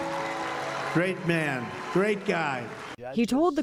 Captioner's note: cheering